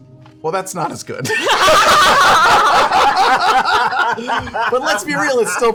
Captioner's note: laughter